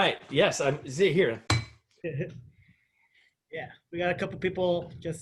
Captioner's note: laughter